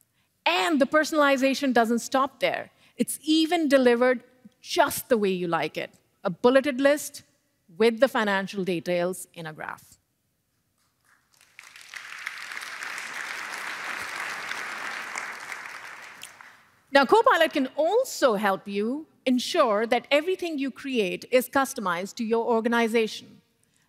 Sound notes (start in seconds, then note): 11.0 applause